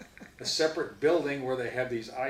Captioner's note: laughs